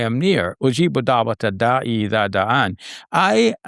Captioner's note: foreign language